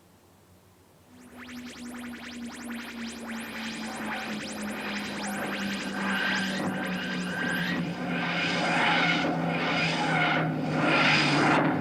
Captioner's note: The sound of the Tardis materializing, but higher pitched